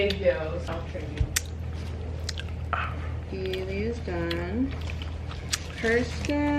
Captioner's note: ASMR mouth sounds, lips smacking